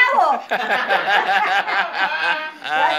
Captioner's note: laughter